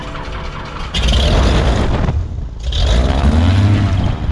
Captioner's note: engine firing